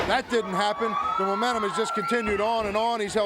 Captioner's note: crowd cheering